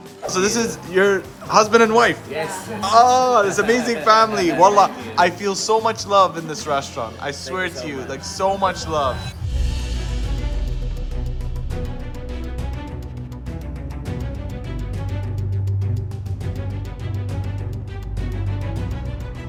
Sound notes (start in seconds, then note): 4.6 speaks Arabic; 9.6 dramatic music